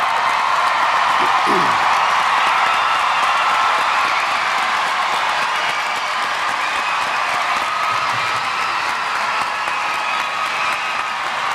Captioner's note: applause